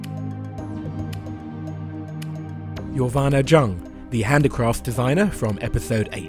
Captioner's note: voiceover